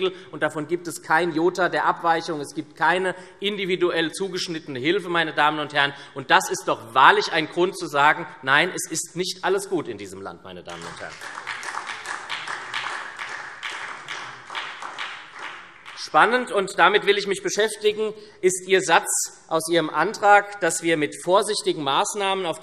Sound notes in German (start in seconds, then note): 10.7 Beifall SPD